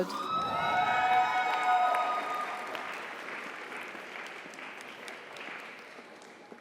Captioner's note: audience cheers; audience applauds